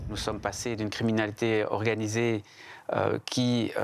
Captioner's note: French spoken audio